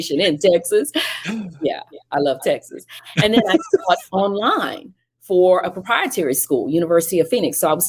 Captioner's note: laughing